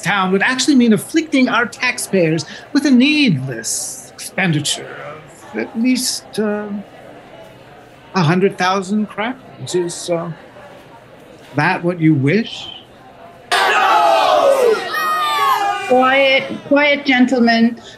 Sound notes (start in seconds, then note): 13.6 crowd